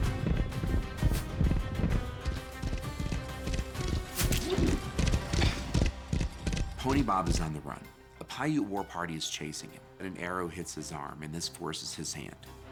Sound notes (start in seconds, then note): 3.5 arrow strikes; 4.3 pony bob grunts